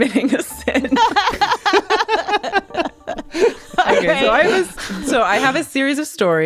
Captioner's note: laughs